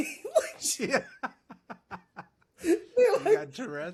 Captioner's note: laughs